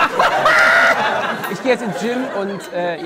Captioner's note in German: Kreischendes Lachen